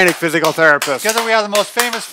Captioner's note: clapping